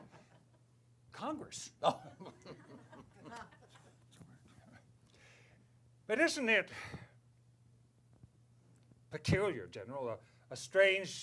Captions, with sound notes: - Congress. - Oh. (chuckles) - But isn't it peculiar General, a strange...